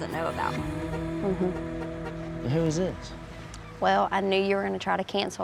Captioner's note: horn honks